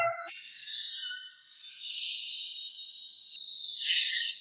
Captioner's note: siren blaring